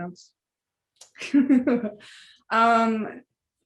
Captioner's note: laughter